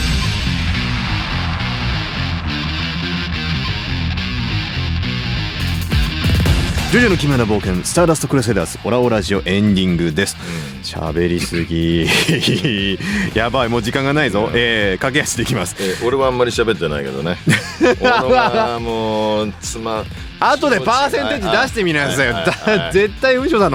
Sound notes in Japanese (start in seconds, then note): 11.1 笑い; 17.2 笑い